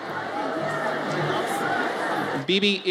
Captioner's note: audience cheers